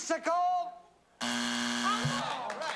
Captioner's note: buzzer